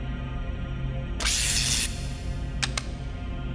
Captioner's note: electricity